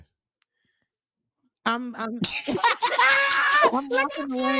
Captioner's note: laughing